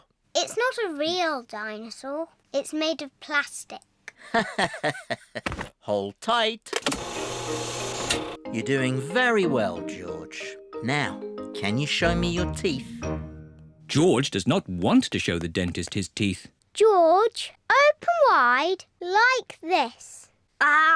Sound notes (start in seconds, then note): 4.3 laughs